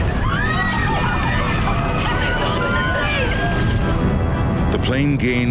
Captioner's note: passengers screaming